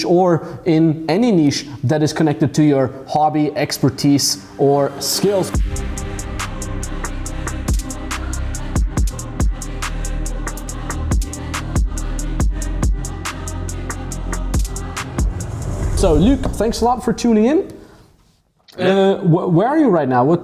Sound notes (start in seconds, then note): 5.7 energetic music; 13.2 air whooshing